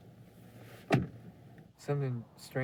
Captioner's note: clunk